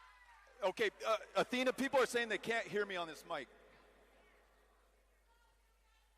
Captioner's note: cheering